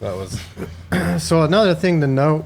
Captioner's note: person laughing